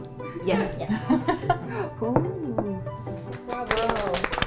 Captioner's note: chuckles